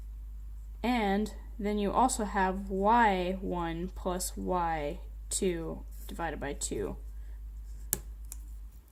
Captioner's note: pencil lead snapped